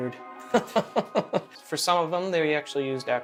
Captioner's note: laughs